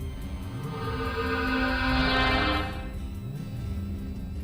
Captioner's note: portal chimes